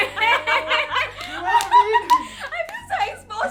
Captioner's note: laughs